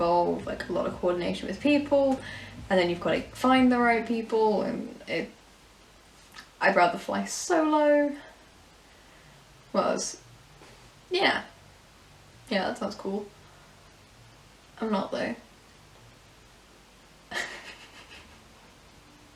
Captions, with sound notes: involve like a lot of coordination with people and then you've gotta find the right people and it, I'd rather fly solo yeah yeah, that sounds cool I'm not though *small chuckle*